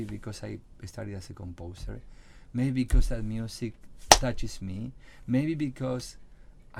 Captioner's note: claps hands